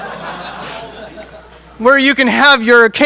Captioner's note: audience laughing